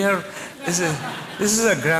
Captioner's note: laughter